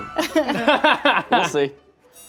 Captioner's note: all laughing